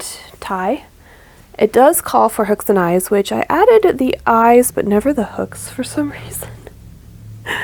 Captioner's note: laughs